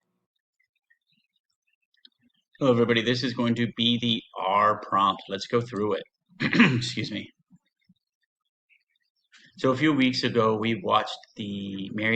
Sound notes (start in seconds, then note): 0.0 silence; 6.4 clears throat